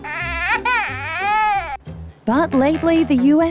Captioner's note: baby cries